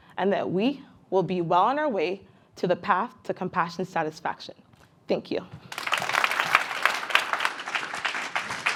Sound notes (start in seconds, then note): 5.6 participants clapping